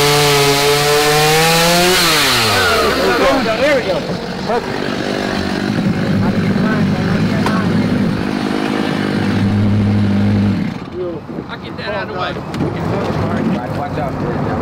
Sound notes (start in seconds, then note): 7.0 crew murmurs